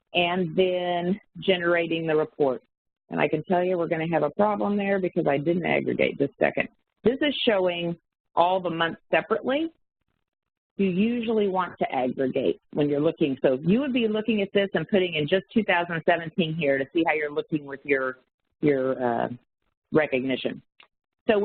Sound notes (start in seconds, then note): 6.6 audio warps